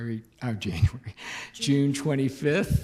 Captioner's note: chuckles